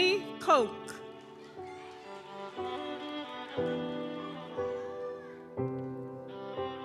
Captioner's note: audience applauds; gentle music continues